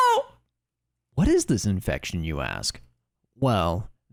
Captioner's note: Normal Sandman voice